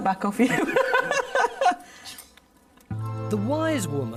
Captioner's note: both laughing